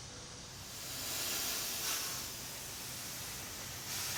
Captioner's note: steam hissing